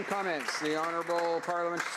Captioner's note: applause